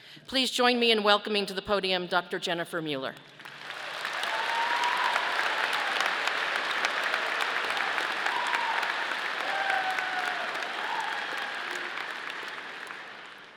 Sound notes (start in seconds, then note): 3.2 audience applauding